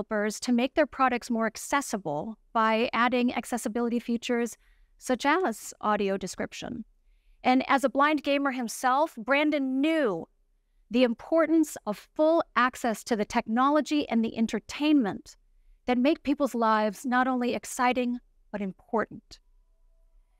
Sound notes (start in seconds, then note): none